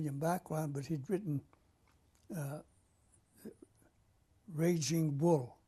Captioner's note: pauses for 3 seconds